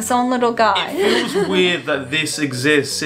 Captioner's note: laughs